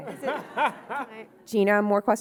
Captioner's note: audience laughing